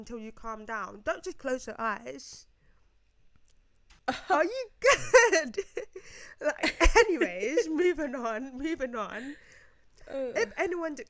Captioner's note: laughs